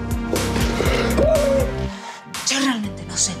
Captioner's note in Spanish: Grito